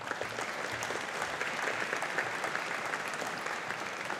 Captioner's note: audience applauding